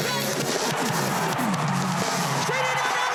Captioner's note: crowd cheering